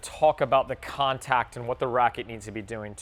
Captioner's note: none